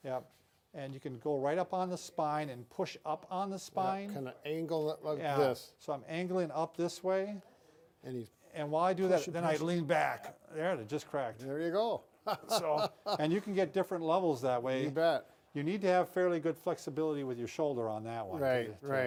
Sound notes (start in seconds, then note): 12.2 laughs